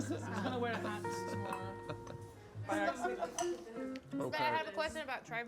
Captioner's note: general chittering and laughter